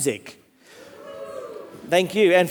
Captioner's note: audience exclaims